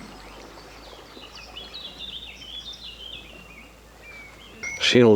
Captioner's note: birdsong